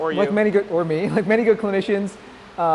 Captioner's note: laughs